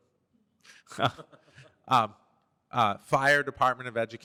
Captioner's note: laughter